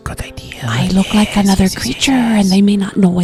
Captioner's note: whispering